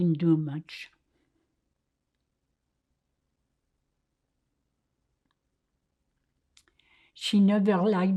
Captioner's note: pauses 6 seconds